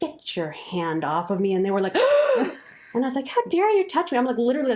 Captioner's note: gasp sound